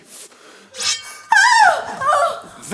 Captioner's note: sword Swinging